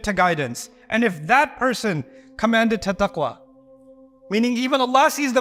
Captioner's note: Arabic